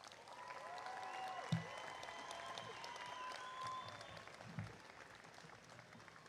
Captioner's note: applause